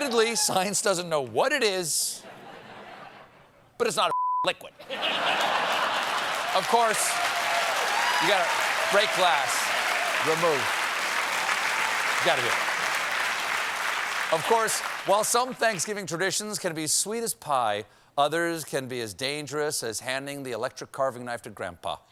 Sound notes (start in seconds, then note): 4.1 applause; 4.8 laughter; 12.4 applause